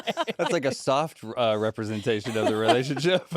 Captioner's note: laughs